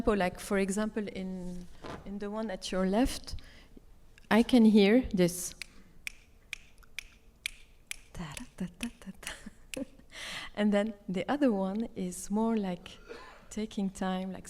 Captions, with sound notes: a tempo like for example, in the one at your left, I can hear this. (snapping fingers) (vocalizes) And then the other one is more like taking time,